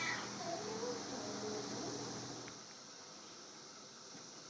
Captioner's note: cicadas singing